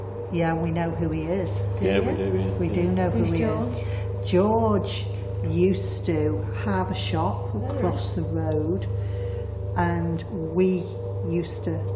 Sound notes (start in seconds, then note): none